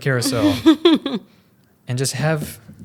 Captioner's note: laughs